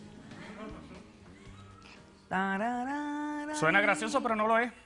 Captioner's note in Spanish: Risas; La doctora tararea